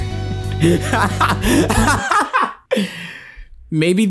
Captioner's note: laughs